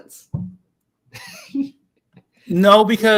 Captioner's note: laughs